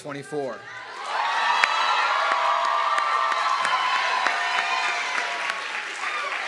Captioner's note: audience clapping and cheering